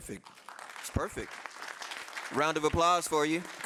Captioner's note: audience applauding